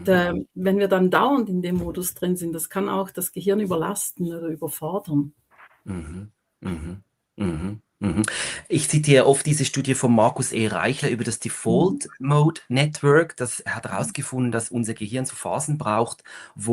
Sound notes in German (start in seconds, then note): 6.6 husten; 6.6 räuspern